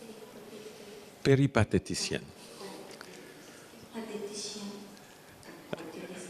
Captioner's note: Latin